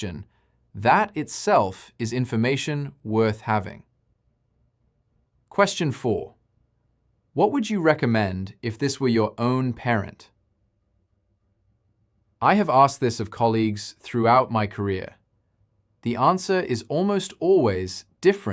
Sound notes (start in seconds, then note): 8.3 pause